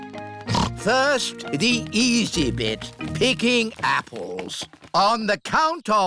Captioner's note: snorts